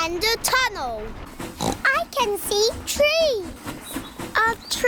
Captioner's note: oinks